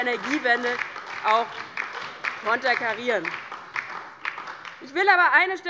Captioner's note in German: Beifall DIE LINKE und vereinzelt SPD